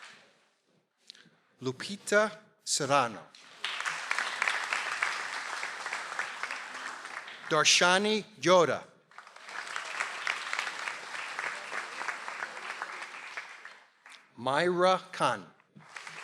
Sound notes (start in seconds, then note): 3.4 audience applauds